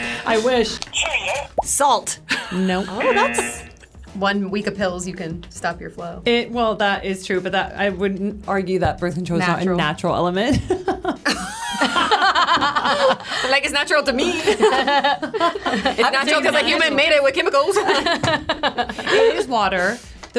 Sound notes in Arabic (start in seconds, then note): 2.3 يضحك; 10.6 يضحك; 10.7 الجميع يضحكون; 17.7 الجميع يضحكون